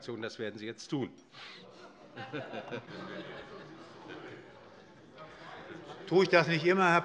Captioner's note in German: Allgemeine Heiterkeit